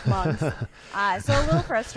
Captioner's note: laughs